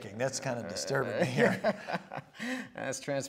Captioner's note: laughter